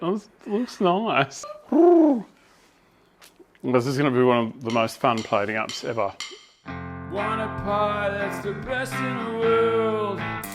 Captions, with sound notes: It looks nice. *pigeon noises* Is this is going to be one of the most fun plating ups ever.